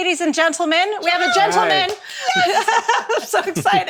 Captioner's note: clapping